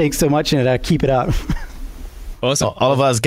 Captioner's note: laughs